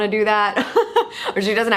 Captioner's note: laughs